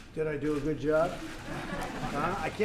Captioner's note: laughter